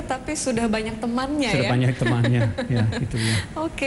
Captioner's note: non-english speech; laughing